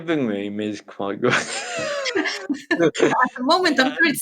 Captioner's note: laughs